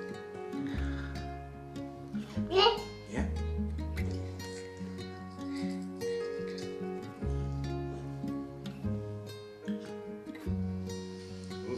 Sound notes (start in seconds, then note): 0.3 gentle music; 2.6 cooing; 4.3 gentle music